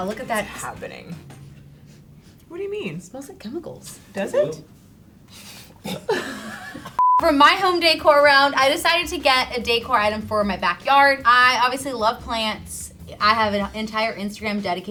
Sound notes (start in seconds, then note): 5.8 girl coughs